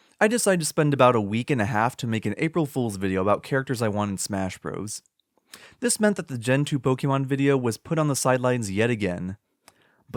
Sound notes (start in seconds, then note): none